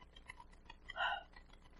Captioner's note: sigh